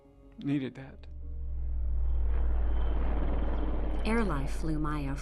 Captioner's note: helicopter whirring sound